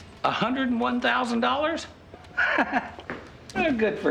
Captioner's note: laughs